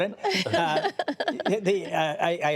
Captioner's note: laughter